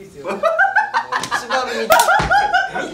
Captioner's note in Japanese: 、突然狂ったかのように笑い出す